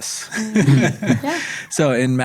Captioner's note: everybody chuckles